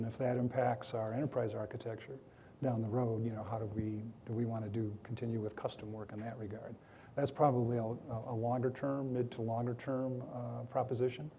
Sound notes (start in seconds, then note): none